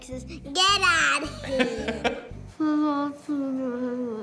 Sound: laughter

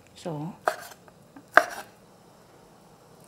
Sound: chopping

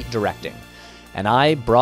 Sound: deep breath

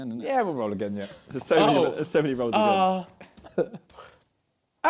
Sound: crowd mumbling

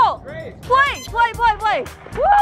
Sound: machine bleeps

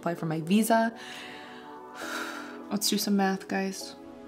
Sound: breathes in and out

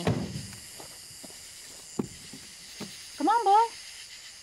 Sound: insects chirping

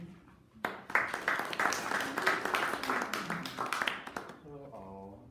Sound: audience applauding

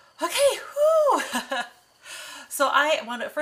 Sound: laughs

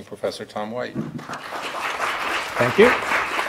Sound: audience applauding

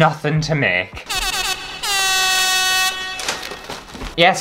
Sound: air Horn

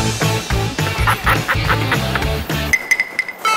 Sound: excited laughter

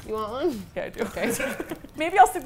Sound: laughing

